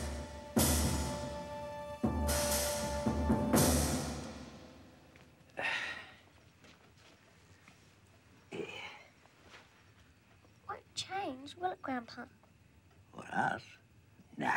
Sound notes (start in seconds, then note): 5.5 Pop sighs; 8.5 Pop groans